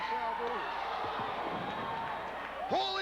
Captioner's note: crowd cheering